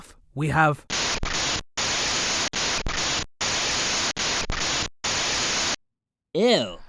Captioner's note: crackling static plays again